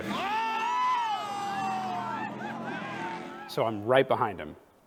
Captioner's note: spectators cheering